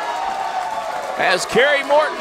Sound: crowd cheering

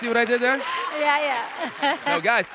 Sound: laughs

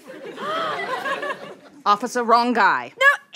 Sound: gasps

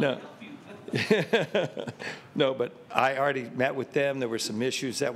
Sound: laughter

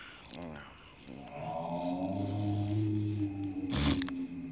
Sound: growling

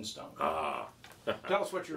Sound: laughs

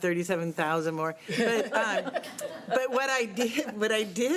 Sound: laughter

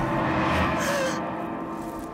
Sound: sharp inhale

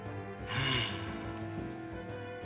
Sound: sigh

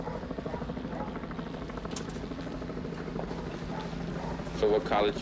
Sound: helicopter circling

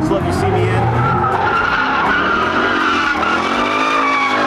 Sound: tires screeching

